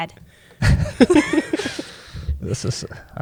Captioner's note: laughter